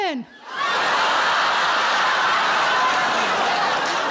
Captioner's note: audience laughing